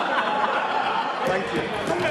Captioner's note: laughter